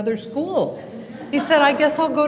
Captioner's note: laughter